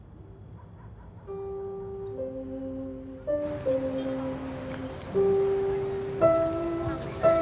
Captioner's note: piano music; humming